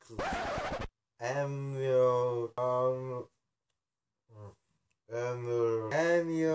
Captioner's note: disc scratch; struggling to pronounce